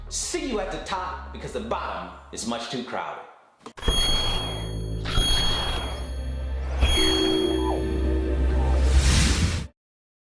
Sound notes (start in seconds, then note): 3.8 chiming; 8.2 whooshing